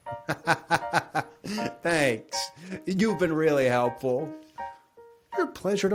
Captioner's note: laughs